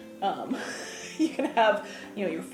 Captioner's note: laughing